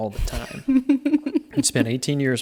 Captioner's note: giggling